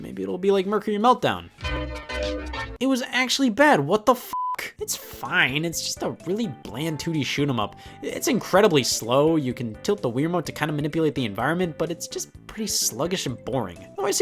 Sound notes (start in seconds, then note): 1.6 upbeat music; 4.3 beep